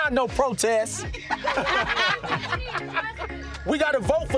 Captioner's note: laughter